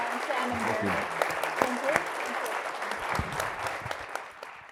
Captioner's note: audience applauds